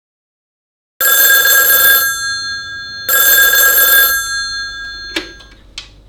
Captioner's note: ringing telephone